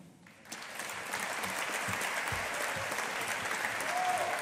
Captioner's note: audience applauding